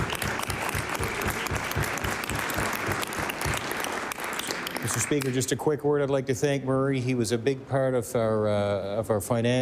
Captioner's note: applause